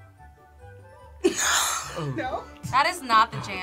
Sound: laughs

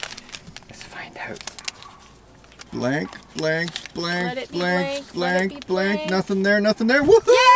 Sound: whispers

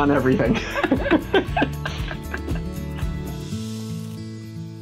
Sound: laugh

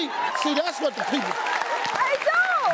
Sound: audience applauding

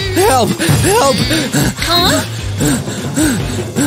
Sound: panting

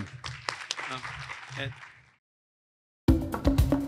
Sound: audience applauds

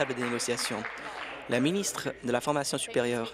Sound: applause

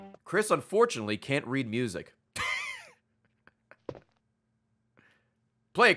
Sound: laughs

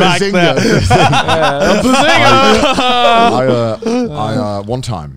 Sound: laughing

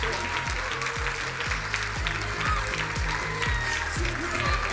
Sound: crowd cheering and applauding

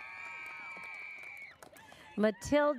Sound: audience cheers

